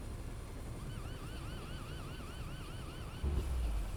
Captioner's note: emergency alarm signal